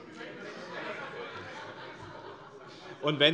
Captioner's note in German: Heiterkeit